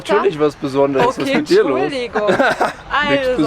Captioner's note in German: Lachen